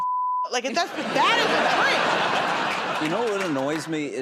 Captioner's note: laughter